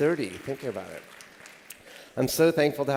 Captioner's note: applause